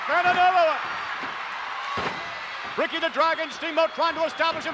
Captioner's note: applause